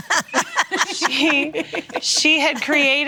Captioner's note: laughing